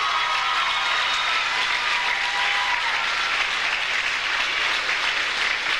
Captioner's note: audience cheers; audience applauds